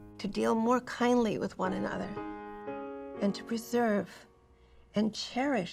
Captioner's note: none